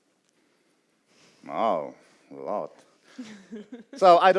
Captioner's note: laughs